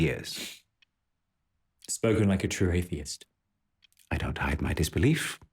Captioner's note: scoffs